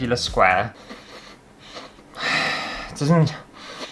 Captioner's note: sniffing